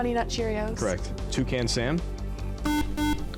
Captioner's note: buzzer